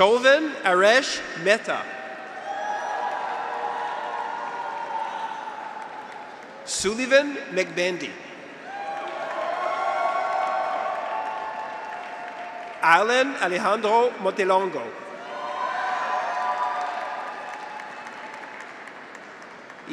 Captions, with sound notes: Shoven Haresh Mehta. (graduates cheer) (audience applauds) Sulivan Mgbendi. (graduates cheer) (audience applauds) Alan Alejandro Montelongo. (graduates cheer) (audience applauds)